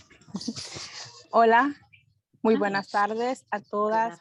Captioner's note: speaking spanish